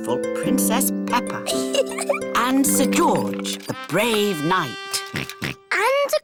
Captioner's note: chuckles; oinks